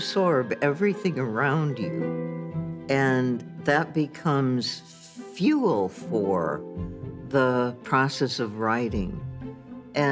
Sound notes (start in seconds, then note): none